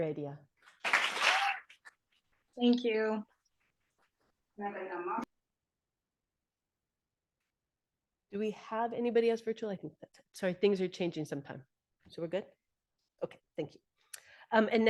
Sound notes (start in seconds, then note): 0.8 audience applauding